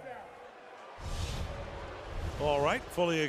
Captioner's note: crowd boos